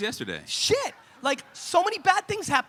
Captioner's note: audience laughing